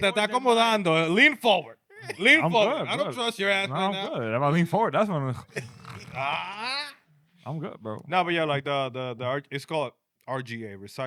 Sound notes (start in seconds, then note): 0.9 speaking In Foreign Language; 5.4 laughing